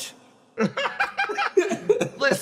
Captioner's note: laughs